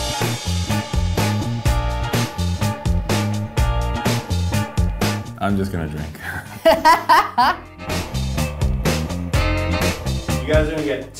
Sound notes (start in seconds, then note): 0.2 upbeat music; 6.3 laughing